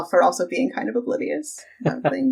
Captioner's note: laughs